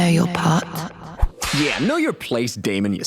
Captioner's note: whip cracks